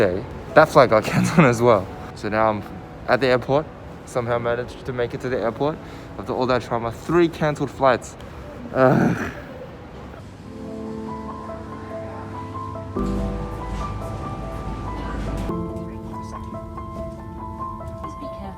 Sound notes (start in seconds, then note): 8.3 sighs